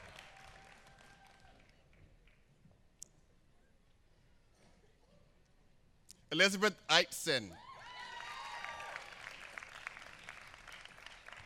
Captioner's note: applause